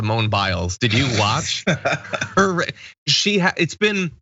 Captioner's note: laugh